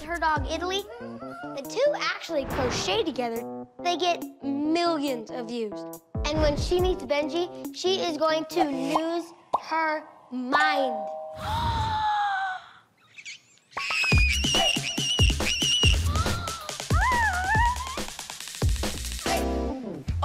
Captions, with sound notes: with her dog, Emily. The two actually crochet together. They get millions of views. And when she meets Benji, she is going to lose her mind. [gasps] [screeching] Oh, my.